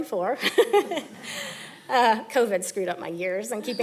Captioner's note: laughing